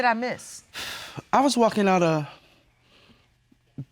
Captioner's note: exhales